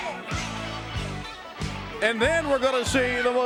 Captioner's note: crowd cheering